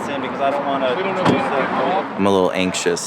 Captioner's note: car door slamming